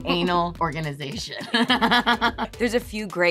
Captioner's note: laughing